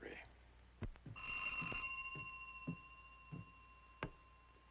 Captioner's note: doorbell ringing